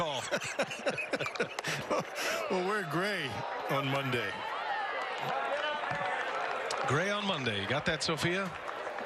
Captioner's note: laughing